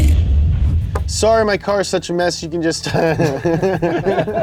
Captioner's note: chuckles